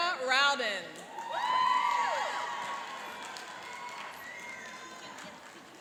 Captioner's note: cheering and applauding